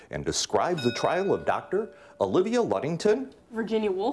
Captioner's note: bell rings